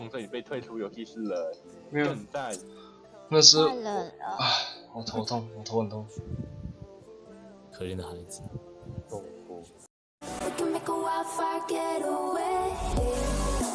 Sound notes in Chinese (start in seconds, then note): 4.2 嘆氣